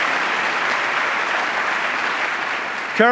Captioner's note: applause